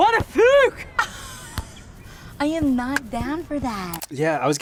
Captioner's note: laughs